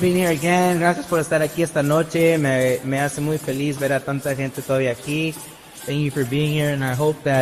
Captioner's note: presenter speaks in foreign language